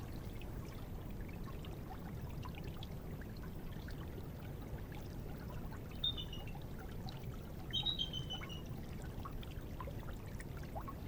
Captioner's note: water burbling and birds chirping